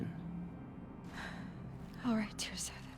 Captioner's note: sigh